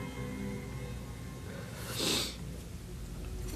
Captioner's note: sniffles